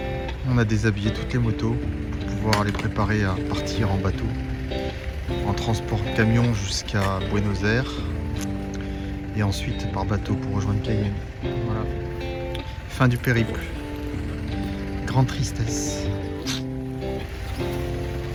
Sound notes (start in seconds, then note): 16.1 Snif